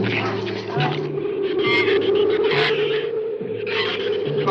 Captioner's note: shrews chatter; wind howls